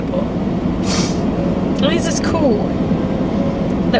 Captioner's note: sniffling